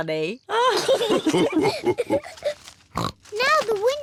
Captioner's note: all laugh